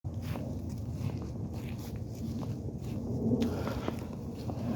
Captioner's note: footsteps